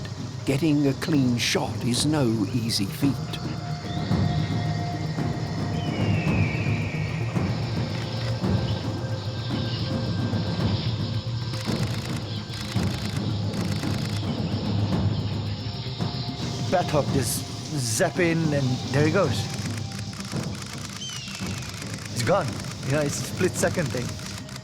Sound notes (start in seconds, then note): 5.7 bird squawks; 12.5 camera shutter clicking rapidly; 19.4 camera clicking; 20.9 hawk squawks